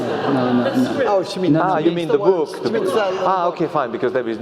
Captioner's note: laugh